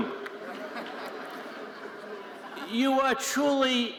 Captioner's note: audience chuckling